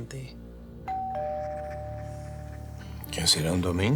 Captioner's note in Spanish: Timbre de la puerta